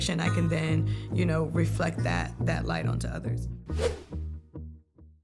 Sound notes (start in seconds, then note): 3.7 air whooshing